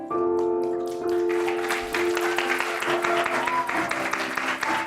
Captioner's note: applause